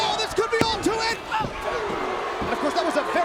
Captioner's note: hand slapping; crowd booing